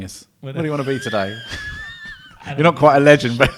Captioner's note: laughs